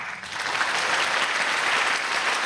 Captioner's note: applause